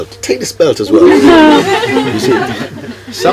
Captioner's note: laughter